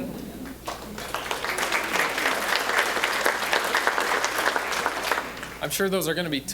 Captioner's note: applause; audience chuckling